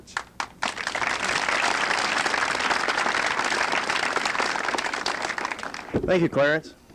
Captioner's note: applause